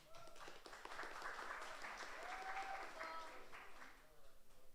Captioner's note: audience applauds